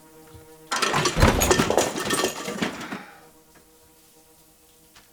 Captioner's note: glass clatters